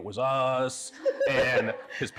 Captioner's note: laughing